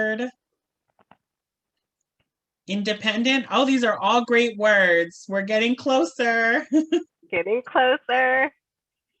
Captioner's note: laughter